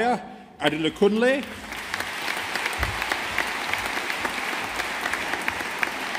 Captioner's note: audience applauding